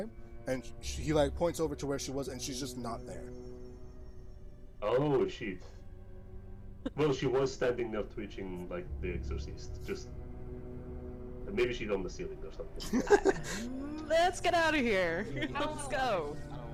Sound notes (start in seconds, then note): 12.7 laughs